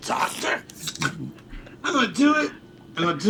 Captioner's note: can hisses softly